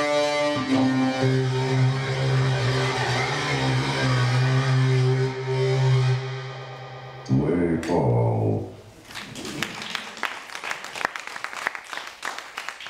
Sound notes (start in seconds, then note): 7.6 electronic voice; 9.0 audience applauding